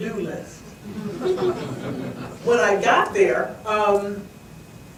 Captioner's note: audience laughs